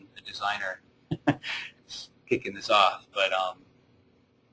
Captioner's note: chuckling